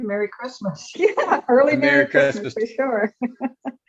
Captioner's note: laughs